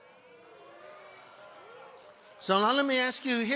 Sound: congregation cheering

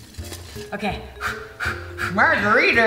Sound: pants

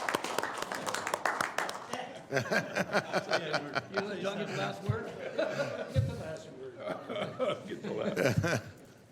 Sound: applause

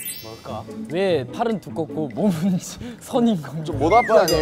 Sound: kekekeke

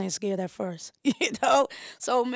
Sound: laughs

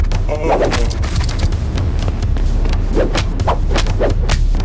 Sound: scorpion groans

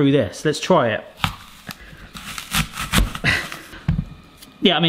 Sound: crunching

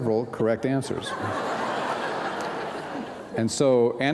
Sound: laughter

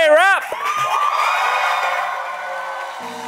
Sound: audience applause

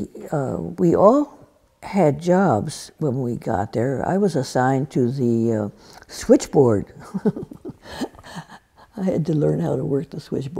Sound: laughs

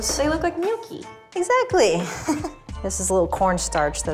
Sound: laughs

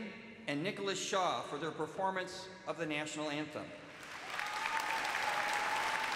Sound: cheers and applause

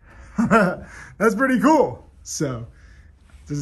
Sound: laughs

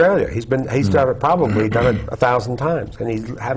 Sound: clears throat

